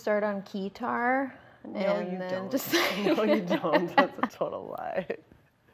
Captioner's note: both laugh